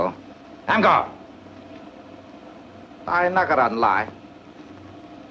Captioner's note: speaks foreign language